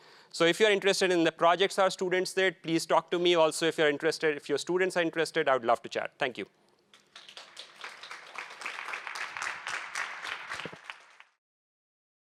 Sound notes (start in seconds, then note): 6.9 applause